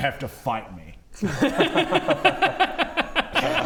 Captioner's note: suspiciously enthusiastic laughter